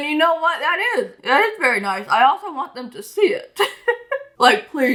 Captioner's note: laughs